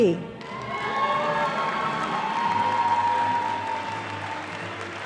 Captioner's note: audience applauding